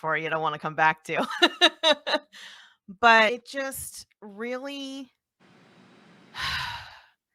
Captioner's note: sigh